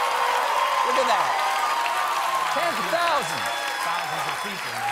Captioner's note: cheers and applause